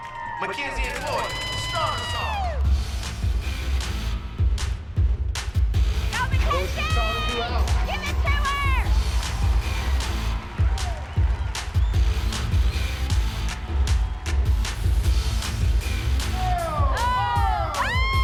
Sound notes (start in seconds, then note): 16.1 cheering